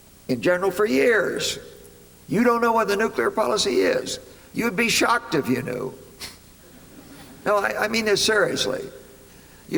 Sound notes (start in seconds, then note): 6.6 laughter